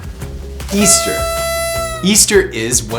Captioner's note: horn honks